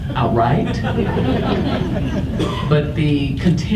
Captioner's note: audience laughs